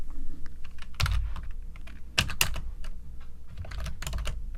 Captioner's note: keyboard clacking